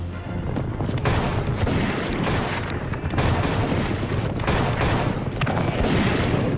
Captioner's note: horse hooves thundering; gunfire pops